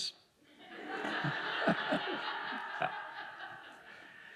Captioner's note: audience laughing